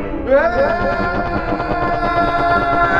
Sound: Keith screams

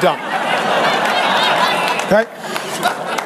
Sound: congregation laughing

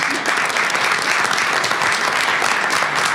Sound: applause

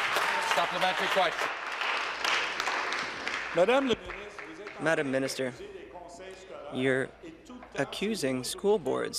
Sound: applause

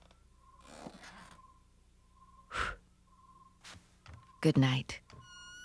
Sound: blowing out candle

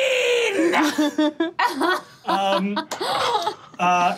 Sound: all laughing

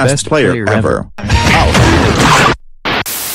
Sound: that Guy Moved his Head Thwomp Sound & Squash

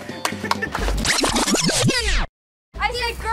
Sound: clapping; rewind sound effect

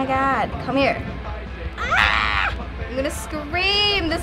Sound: growls in frustration

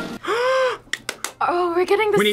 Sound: playful music; gasps

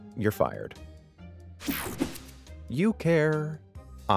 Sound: transition zapping

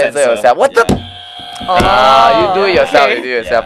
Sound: buzz

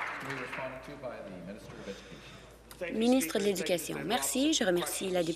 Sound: applause

